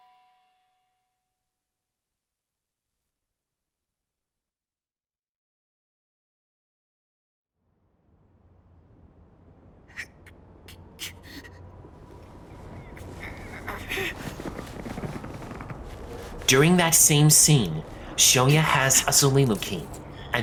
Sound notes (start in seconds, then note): 0.2 silence; 7.4 sound resumes, wind whistling; 10.0 Shoya straining, grunting